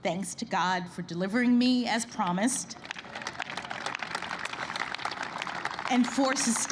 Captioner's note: applause